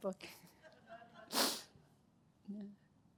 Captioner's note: laughter